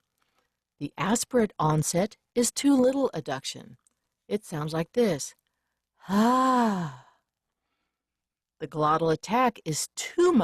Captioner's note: breathy ah